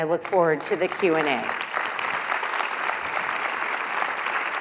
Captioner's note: applause